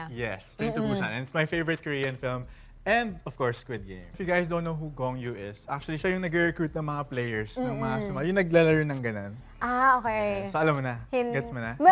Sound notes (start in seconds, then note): none